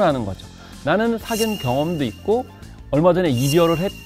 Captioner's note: confident